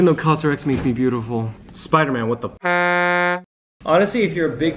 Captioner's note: horn sound